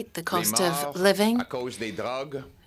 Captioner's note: speaking French